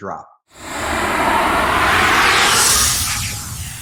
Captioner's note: air whooshing